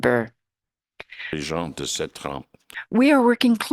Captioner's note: speaking in French